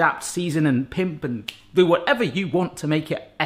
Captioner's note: snaps fingers